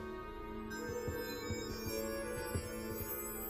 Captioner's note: orb shimmering